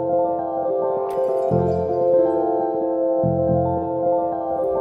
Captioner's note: glass breaks